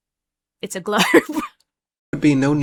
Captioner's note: laughs